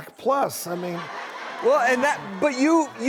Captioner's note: audience laughs